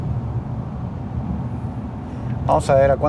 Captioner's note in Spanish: Sonido del Motor